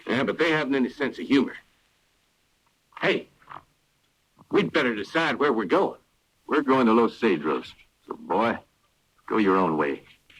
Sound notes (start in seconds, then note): none